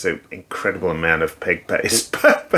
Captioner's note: laughs